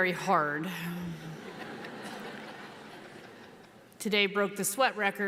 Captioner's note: audience laughs